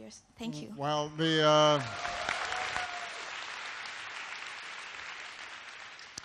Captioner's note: applause